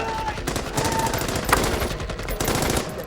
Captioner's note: gunshots blasting